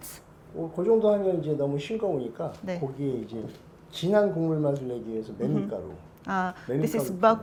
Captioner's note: speaking Korean